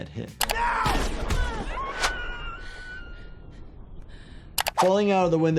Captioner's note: woman screaming